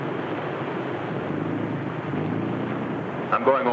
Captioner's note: boat hums